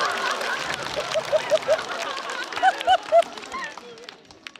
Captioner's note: audience laughter